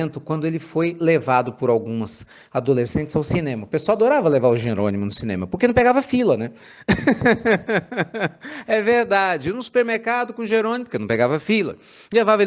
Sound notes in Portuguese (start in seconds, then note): 6.8 risos